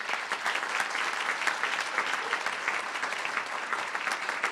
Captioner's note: crowd applauding